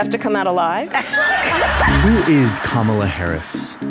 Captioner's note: audience laughing